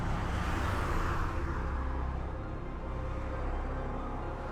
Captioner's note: car engine rumbling; car whooshing